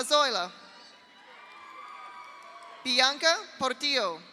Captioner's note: audience cheers; audience applauds